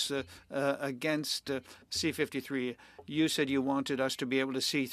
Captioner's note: speaking French